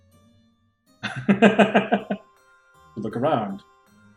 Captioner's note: laughs